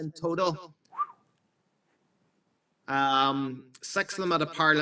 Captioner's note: surprise whistles